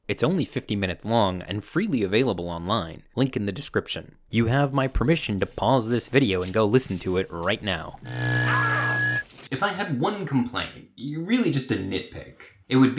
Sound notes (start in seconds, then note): 7.9 machine buzzing; 8.1 shouting